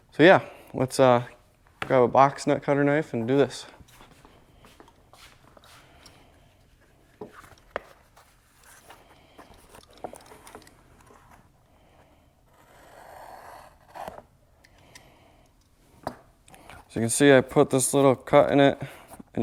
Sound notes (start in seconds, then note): 5.0 feet shuffling; 10.0 materials shuffling